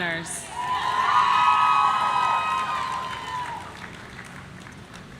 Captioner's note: audience cheering